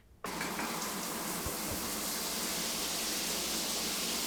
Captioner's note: water running